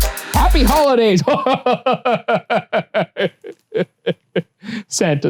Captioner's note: laughs